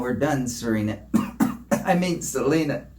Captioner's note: coughs